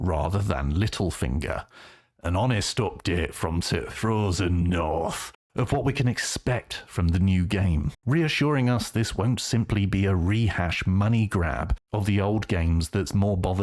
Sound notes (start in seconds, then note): 1.8 northern accent